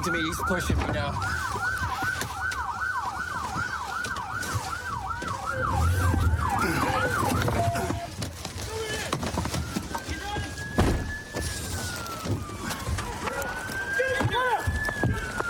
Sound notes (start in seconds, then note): 1.3 sirens blaring